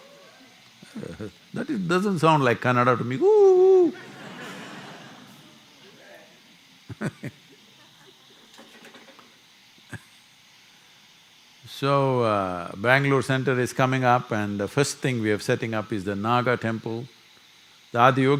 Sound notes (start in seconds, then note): 6.8 laughter